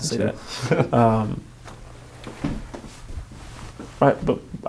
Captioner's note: laughing